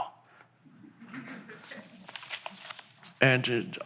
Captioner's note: audience chuckles